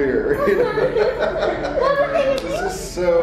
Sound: laughing

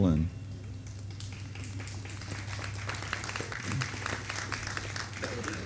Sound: audience applauding

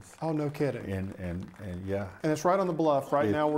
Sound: crowd applauds

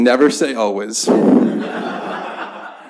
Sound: laughter

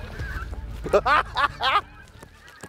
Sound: laughter

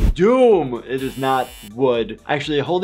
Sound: buzzer buzzes

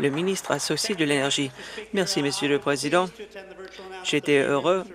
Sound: some Applause

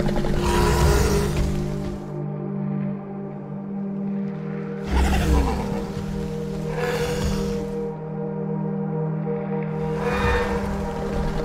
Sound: Scorpius Rex growls

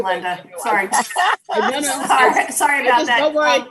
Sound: laughing loudly

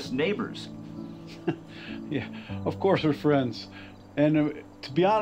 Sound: chuckles

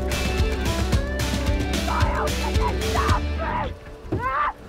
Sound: music concludes; muffled screaming

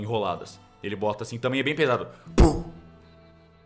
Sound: pow

